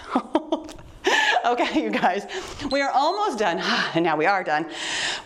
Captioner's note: timer beeps